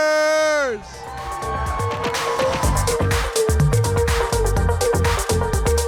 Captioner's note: audience cheers and applauds